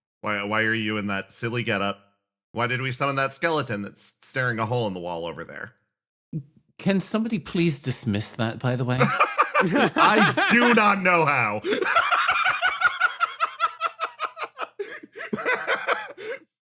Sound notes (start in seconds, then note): 9.2 laughs; 11.6 laugh